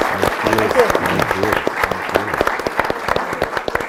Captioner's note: applause